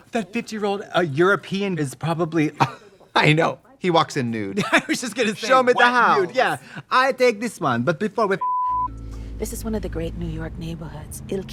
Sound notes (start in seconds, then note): 8.4 beep